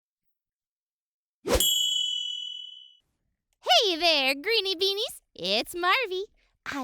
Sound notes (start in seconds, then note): 0.3 swiping; 1.6 twinkle